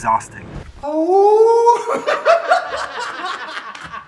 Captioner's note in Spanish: aullido; risas